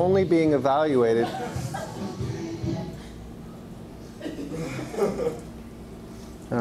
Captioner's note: background Noises and Laughter